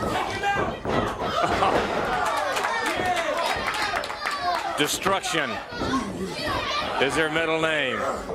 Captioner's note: crowd chatter